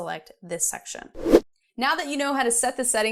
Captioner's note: air whooshing